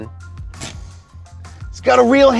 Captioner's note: handbrake cranks